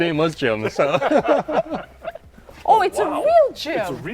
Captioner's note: group laughing